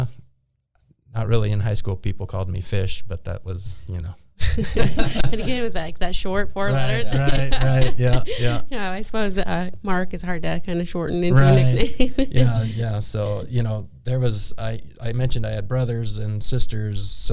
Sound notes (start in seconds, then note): 4.4 both people laughing